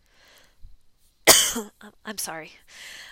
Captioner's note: coughs